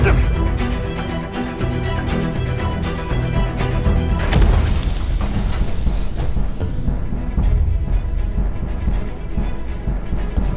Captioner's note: grunts